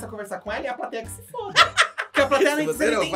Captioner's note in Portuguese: gargalha